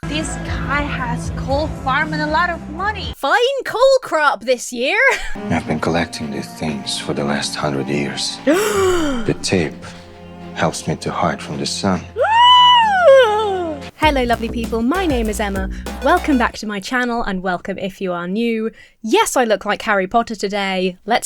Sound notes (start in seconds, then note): 8.4 Emma gasps melodramatically; 12.2 Emma squeals